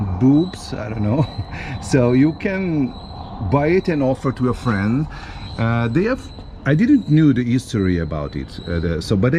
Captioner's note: laughing